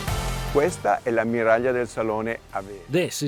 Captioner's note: in foreign language